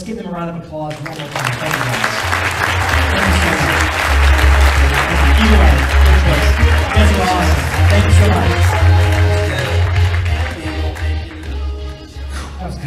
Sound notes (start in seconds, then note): 2.6 audience applauds; 8.9 audience applauds; 9.9 upbeat music; 12.2 exhales